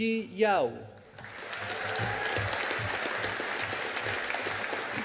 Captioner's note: audience applauding